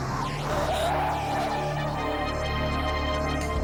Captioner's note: tires screech